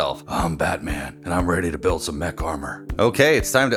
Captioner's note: Deep Batman Voice